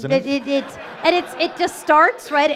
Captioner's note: audience laughing